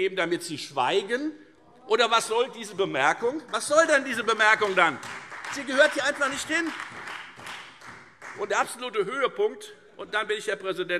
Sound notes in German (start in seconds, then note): 6.7 Beifall Freie Demokraten